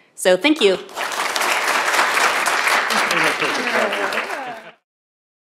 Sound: applause

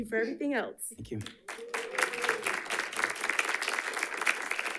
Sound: audience applauding

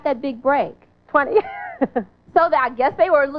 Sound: laughing

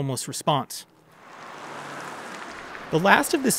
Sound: car whooshing

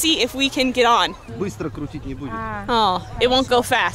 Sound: man speaking in Russian

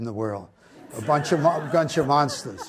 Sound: audience laughs

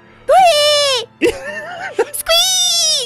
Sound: cracks up

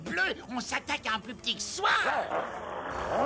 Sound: Skippy growls

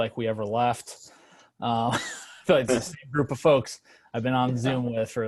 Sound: laughter

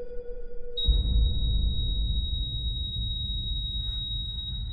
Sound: heart Monitor Flatline

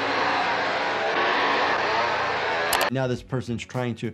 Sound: chainsaw buzzing

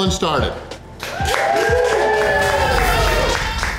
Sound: crowd cheering

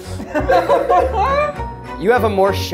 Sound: laughs

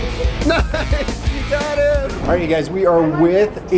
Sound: laughs

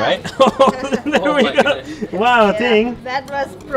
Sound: laughs

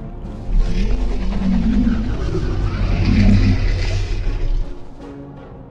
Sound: mosasaurus Sounds; dramatic Music

